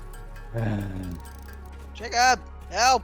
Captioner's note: sigh